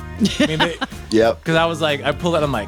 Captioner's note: laughs